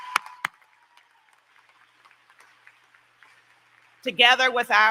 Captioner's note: applause